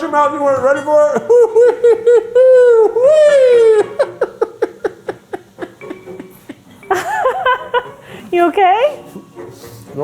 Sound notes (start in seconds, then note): 4.0 laughing